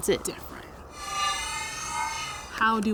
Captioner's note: mysterious whooshing